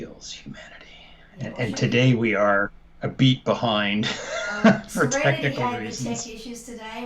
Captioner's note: laughter